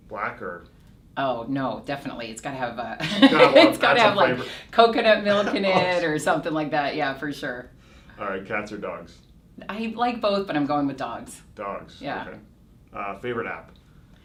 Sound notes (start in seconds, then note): 3.0 laughs